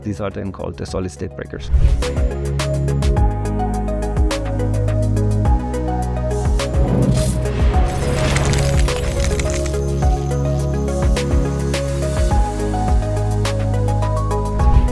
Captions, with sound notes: These are then called the solid-state breakers. (upbeat music continues) (logo whooshes)